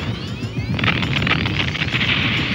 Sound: explodes

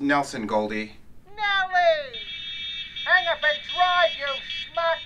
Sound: honking horn and screeching tires

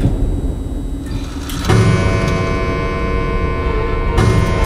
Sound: clock chimes; music intensifies

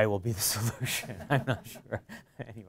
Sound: laughter

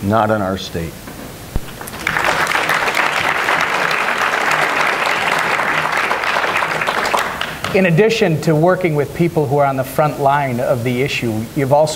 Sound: applause

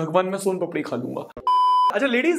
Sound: beep

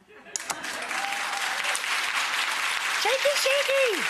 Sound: audience cheering

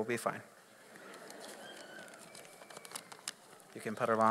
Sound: audience laughs

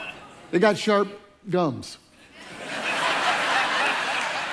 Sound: congregation laughs

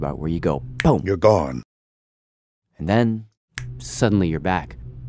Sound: snaps fingers; snaps fingers

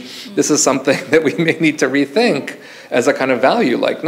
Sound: chuckles

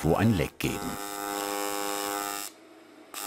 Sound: loud whirring

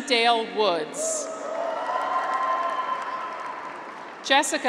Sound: graduates cheer

